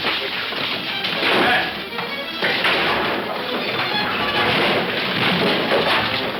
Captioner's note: fists thudding; suspenseful music